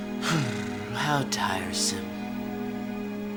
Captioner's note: sighs